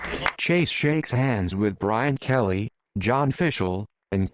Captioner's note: crowd applauds